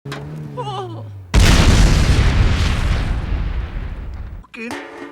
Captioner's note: ka boom!